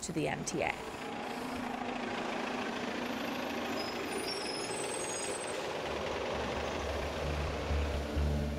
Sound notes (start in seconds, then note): 2.4 engine clattering; 3.3 brakes screech